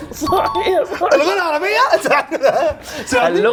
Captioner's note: in Egyptian 🇪🇬 dialect